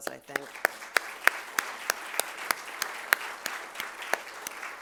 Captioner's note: audience applauding